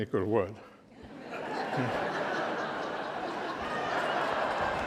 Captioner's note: laughter